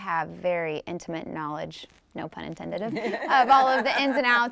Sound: group laughing

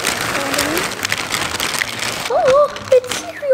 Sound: bag crinkles loudly

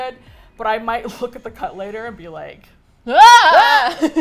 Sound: screams; laughs

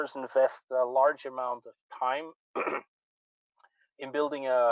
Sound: clears throat

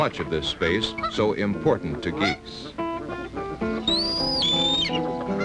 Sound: nature sounds

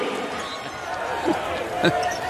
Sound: laughter

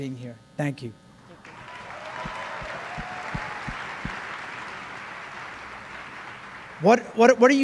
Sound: applause

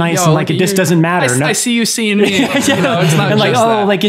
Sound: Father Innocent laughs

